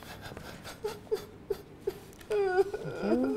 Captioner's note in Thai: ร้องไห้